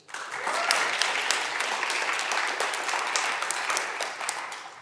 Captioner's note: audience clapping and cheering